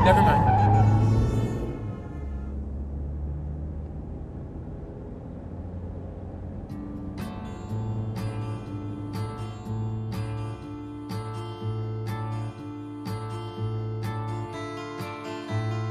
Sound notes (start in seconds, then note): 0.0 tires squeal; 2.9 horn honks in distance